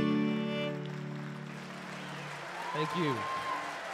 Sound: applause

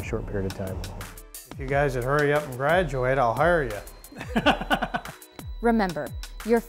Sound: laughs

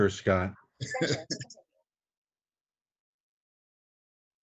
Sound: chuckling

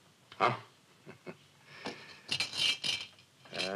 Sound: chuckles; toy rattling

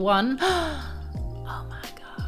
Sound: gasps

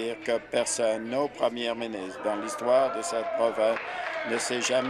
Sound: applause

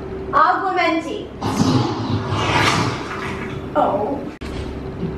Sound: lighting zap

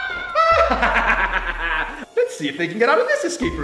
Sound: cackling laughter

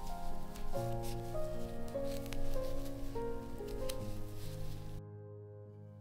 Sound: soft rustle of needles and yarn

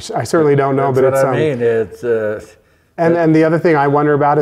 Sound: low mumbling

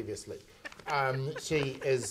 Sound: laughing

